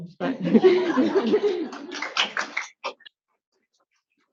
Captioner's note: audience laughs